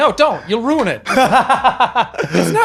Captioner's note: laughing